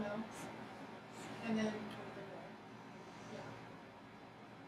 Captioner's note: speaking softly